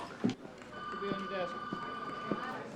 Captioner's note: phone ringing